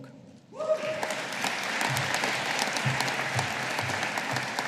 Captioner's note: audience applauding